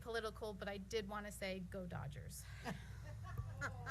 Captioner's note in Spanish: risas, gemidos